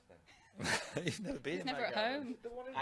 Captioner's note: laughs